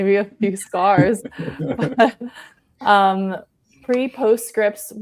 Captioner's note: panelists laughing